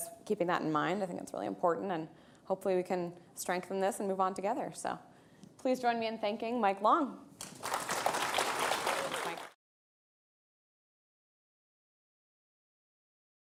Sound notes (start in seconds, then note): 7.4 audience applauding